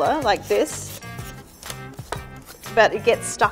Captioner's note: peeler grinding against taro